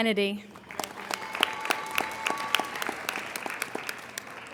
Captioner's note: applauding